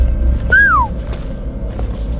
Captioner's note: whistles